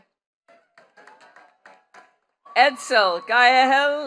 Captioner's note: attendees clapping